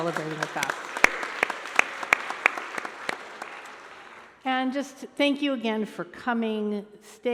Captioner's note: applause